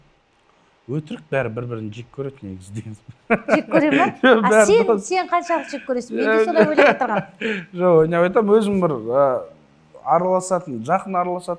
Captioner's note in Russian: смех